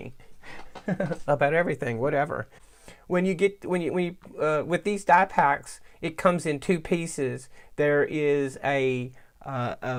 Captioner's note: laughs